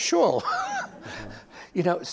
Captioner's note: laughter